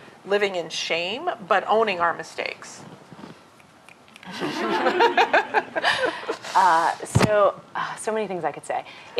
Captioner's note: snaps. Laughter